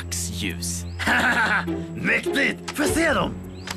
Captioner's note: laughs